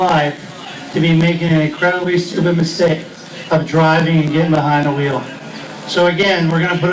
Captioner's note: drinking